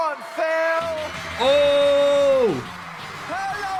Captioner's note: audience cheering; upbeat music